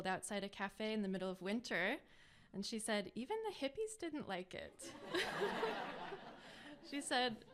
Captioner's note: laughter